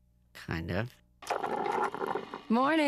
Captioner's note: gurgling